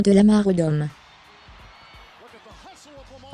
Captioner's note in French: acclamations de la foule